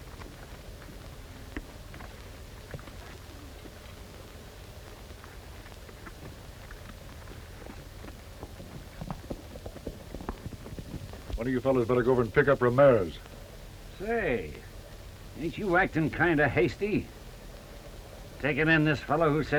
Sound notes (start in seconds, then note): none